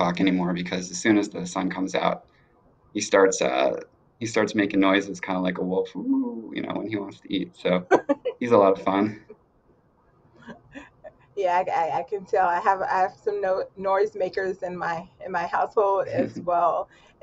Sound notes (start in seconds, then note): 4.4 imitating wolf howling; 8.4 both laughing